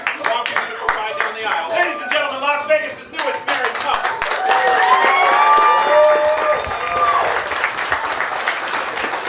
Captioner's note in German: Beifall